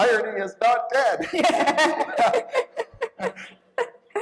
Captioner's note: laughter